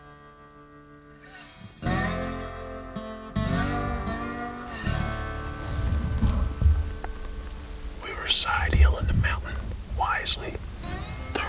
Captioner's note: whispering